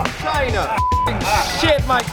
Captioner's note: beep